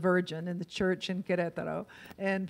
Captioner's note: in foreign language